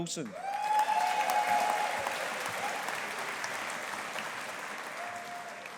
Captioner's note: audience applauding